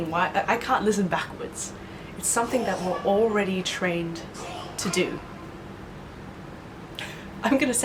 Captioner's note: child coughs